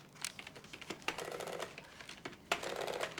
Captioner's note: clacking